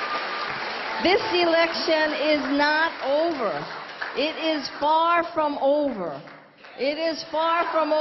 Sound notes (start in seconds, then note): 6.6 crowd cheering